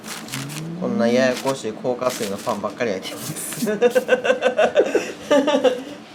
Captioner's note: laugh